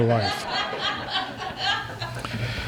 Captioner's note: laughter